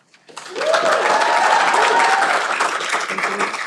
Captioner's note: cheering